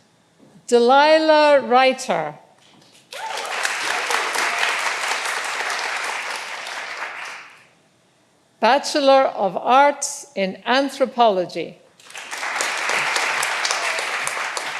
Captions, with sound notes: Delilah Righter. (all applauding) Bachelor of Arts in Anthropology. (all applauding)